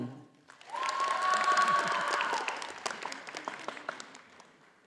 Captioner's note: audience applauding